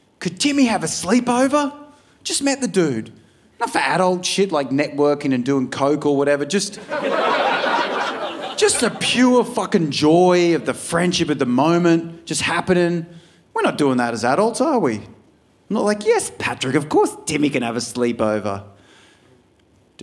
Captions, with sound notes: could Timmy have a sleepover?" Just met the dude. Not for adult shit like networking and doing coke or whatever, just- (audience laughing) Just the pure fucking joy of the friendship in the moment, just happening. We're not doing that as adults, are we? I'm not like, "Yes Patrick, of course Timmy can have a sleepover.